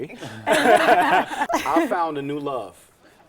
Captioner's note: laughing